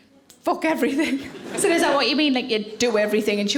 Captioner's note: audience laughing